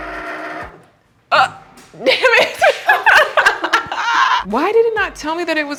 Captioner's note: laughing